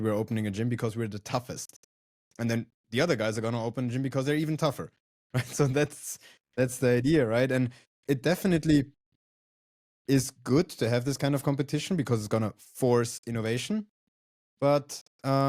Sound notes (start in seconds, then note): 5.4 laughs